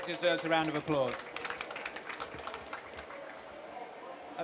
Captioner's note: applause